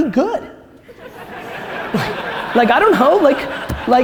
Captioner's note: audience laughter